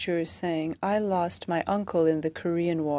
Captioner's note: speaking French